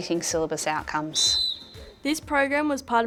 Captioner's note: whistle blows